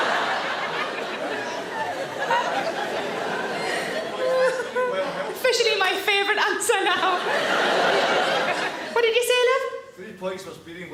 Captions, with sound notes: (audience laughs) Officially my favourite answer now. (audience laughs) What did you say, love? - Three points for speeding